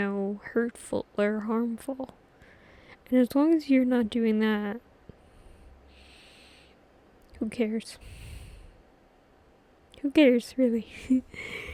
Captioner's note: laughs